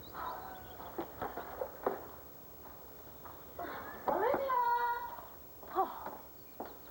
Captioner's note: footsteps on path